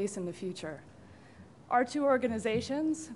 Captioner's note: pause